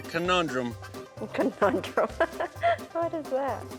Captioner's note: laughs